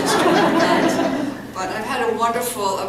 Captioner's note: laughter